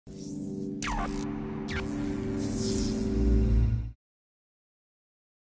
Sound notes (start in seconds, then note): 0.1 electronic buzzing